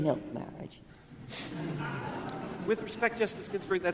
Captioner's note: crowd; laughing